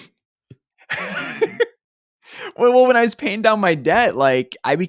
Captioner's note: laughs